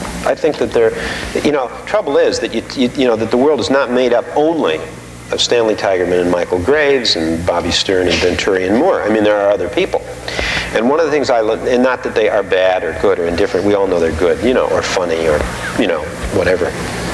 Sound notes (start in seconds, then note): none